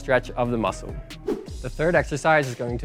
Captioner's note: wooshing